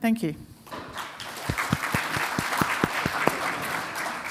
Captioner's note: applause